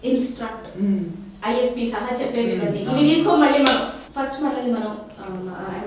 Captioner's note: sarcastically